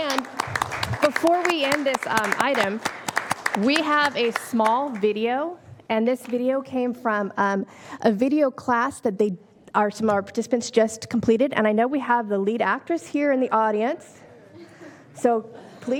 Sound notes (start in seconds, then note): 4.2 applause